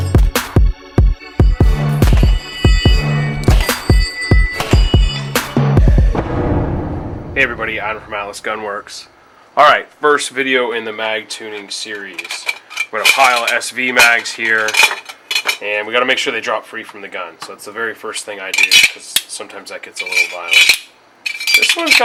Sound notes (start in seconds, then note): 1.0 hip hop music; 3.5 gun fires